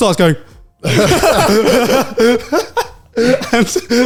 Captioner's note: all laugh